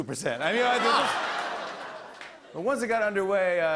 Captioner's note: laughter